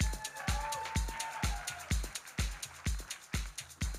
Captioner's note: electronic dance music; audience cheering